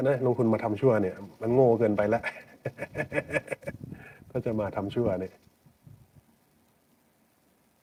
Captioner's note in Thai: เสียงหัวเราะ